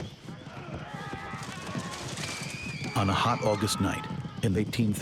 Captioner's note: man shouting, woman screaming